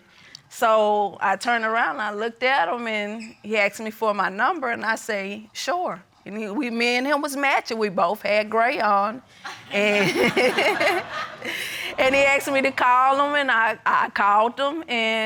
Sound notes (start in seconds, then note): 9.5 chuckles